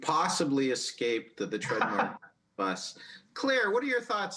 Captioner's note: laughs